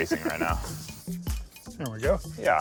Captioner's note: chuckling